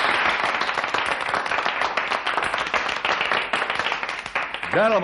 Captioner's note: crowd applauding